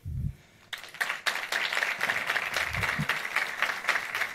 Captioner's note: audience applauds